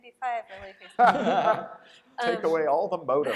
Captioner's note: laughter